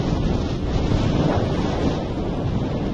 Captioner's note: strong wind blows